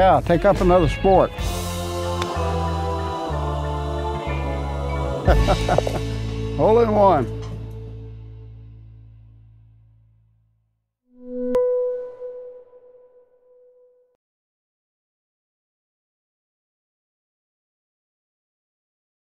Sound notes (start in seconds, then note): 5.0 laughs